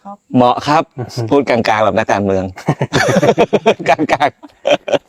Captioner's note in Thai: เสียงหัวเราะ